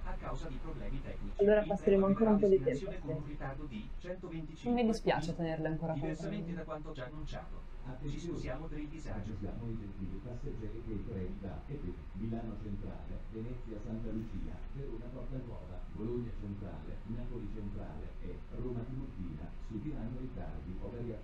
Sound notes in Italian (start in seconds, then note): 8.0 voce registrata esterna